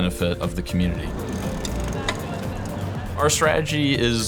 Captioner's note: sound of bike passing